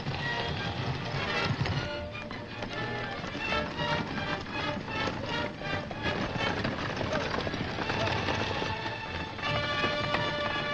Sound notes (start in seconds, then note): 5.0 chariots rumbling; 5.0 hooves thundering